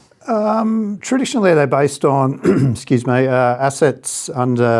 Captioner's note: clears throat